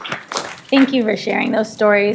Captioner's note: applause